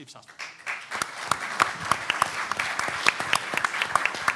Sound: clapping

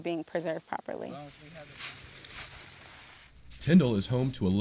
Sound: leaves crunching

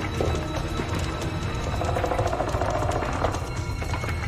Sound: centipede growls

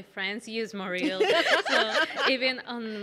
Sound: laughing

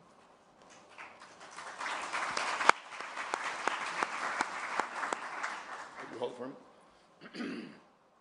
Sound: applause

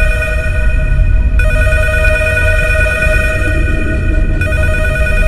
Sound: phone rings

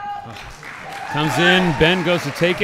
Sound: audience applauding

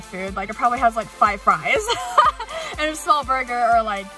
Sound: laughing

